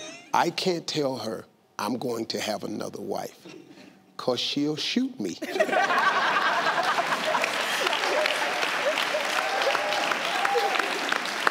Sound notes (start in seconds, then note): 5.4 family laughing; 6.5 audience clapping